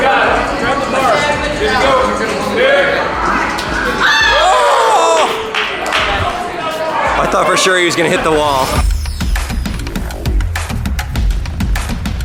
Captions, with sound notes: - Oh, god! - Grab the bar. Good to go, clear! (people clapping and shouting) - I thought for sure he was gonna hit the wall. (dark electronic music)